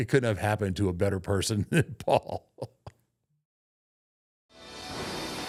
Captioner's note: laughs